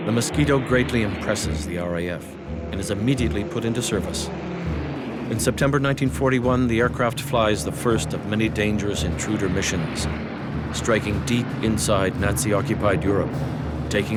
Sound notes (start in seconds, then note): 4.5 plane engine roaring